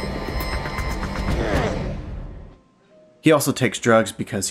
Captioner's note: groans